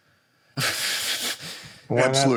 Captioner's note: laughs